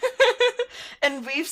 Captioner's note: laughter